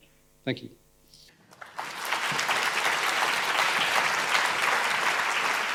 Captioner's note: audience applauding